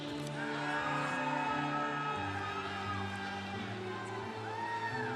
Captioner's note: congregation cheering